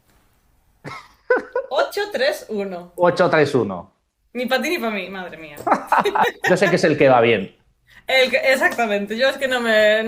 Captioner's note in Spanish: risas